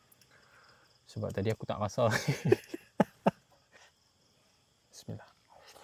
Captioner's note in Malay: ketawa